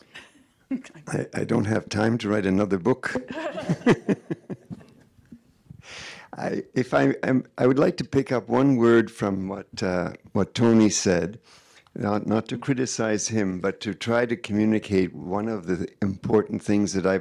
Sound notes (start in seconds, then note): 3.2 audience laughing